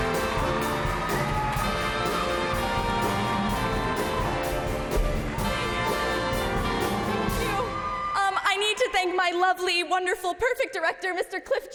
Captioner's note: cheers and applause